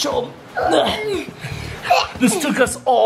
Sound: breathes heavily

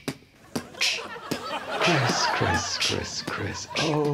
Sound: beatboxing

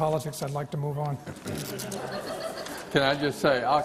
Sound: laughter

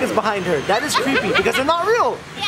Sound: laughs

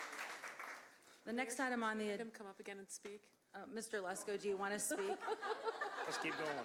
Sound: applause

